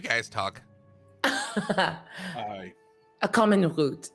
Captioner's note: laughs